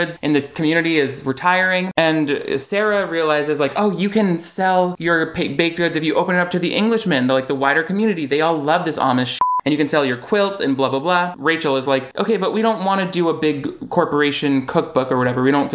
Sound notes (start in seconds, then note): 9.4 beep